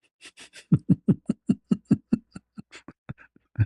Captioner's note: ketawa